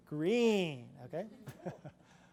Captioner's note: laughs